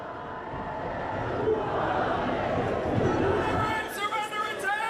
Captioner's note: crowd chanting